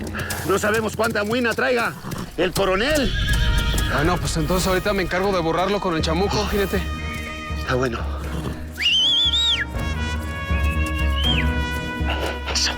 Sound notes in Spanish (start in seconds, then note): 8.7 Silbidos